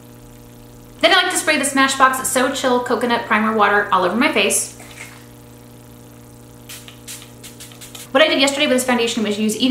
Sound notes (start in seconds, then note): 4.8 swishing liquid; 6.6 spraying